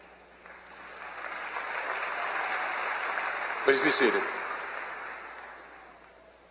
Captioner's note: applause